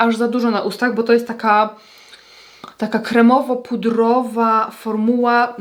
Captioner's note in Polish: parsknięcie